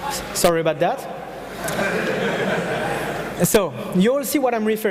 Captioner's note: audience laughing